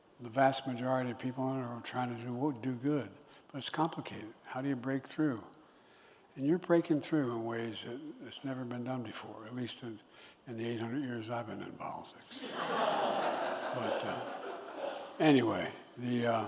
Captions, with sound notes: The vast majority of people in it are trying to do w- -- do good, but it's complicated. How do you break through? And you're breaking through in ways that it's never been done before, at least in -- in the 800 years I've been in politics. (Laughter.) But, anyway, w- --